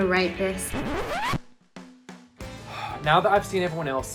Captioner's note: record scratch